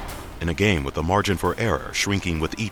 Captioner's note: voiceover